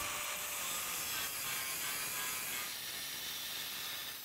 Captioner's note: saw buzzing